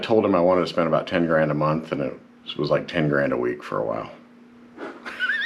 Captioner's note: laughing